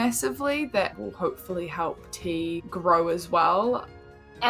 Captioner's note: none